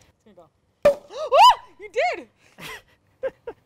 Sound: cork pops; laughs

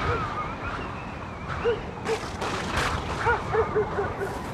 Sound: dog Barking

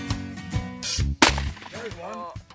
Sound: gun firing

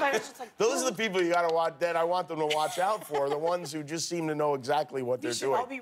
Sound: laughter

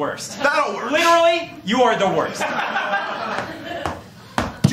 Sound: laughter

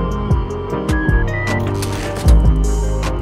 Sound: beeping

